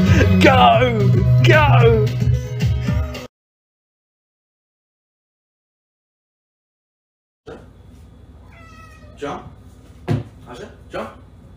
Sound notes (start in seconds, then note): 8.4 meow